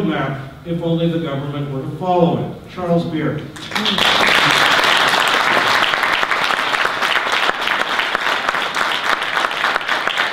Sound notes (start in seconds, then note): 3.6 audience applause